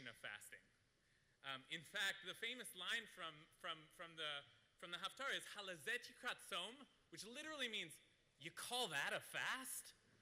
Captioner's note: Hebrew